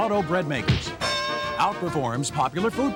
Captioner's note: glove punches; bell rings